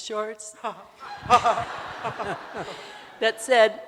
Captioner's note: audience laughing